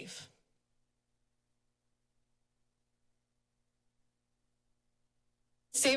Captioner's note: silence